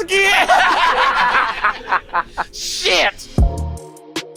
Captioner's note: laugh